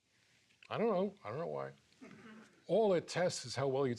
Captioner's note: laughs